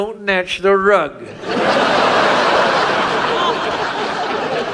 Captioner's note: audience laughs